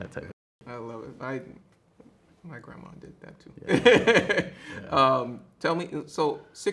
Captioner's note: laughs